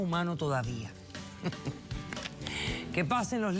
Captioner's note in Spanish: Ríe